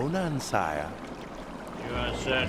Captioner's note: water bubbling